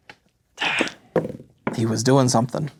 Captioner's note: dice rolling